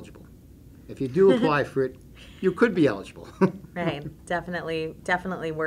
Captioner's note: laughing